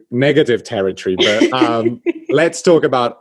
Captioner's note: laughs